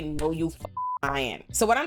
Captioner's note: beep